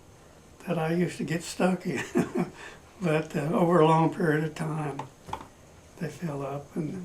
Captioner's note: laughs